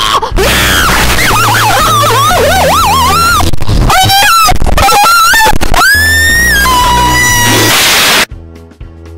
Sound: yells and screams; whap

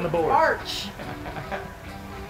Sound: laugh

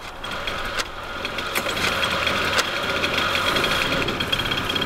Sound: engine revving

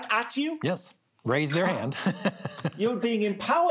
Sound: laughing

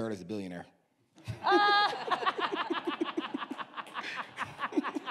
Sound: all laugh

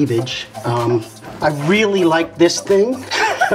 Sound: laughs

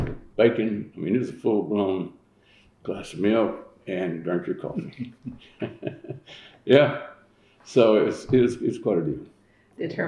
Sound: laughs

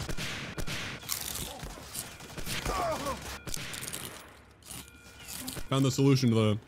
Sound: obnoxious chip eating sounds

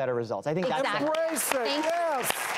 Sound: audience applauds

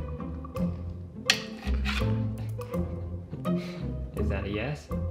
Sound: paw scratching

